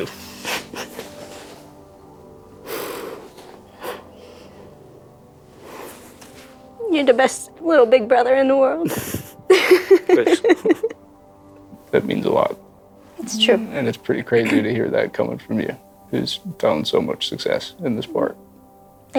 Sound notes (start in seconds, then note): 8.8 laughs